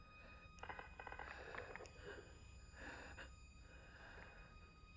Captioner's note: breathing heavily